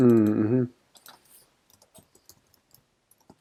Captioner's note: mouse clicking